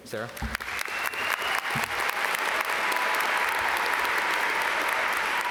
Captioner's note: audience applaud